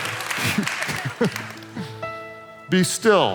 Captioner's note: laughs